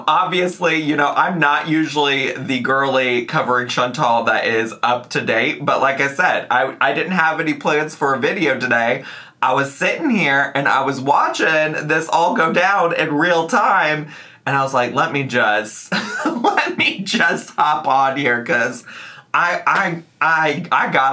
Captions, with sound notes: Obviously, I'm not usually the girly, covering Chantal that is up to date, but like I said, I didn't have any plans for a video today. I was sitting here, and I was watching this all go down in real time, and I was like, let me just, (laughs) let me just hop on here 'cause I gotta let y'all